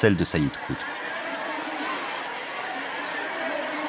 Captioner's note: crowd noises